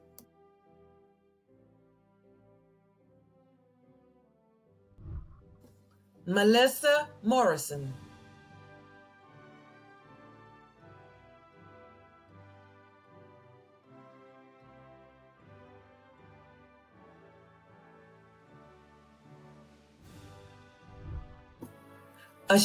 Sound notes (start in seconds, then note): 0.2 celebratory music; 5.0 whooshing; 8.3 celebratory music; 20.9 whooshing